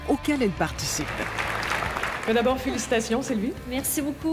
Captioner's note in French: applaudissements